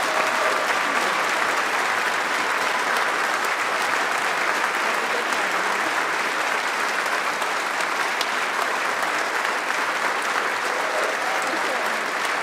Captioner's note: applause